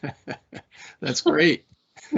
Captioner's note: laughing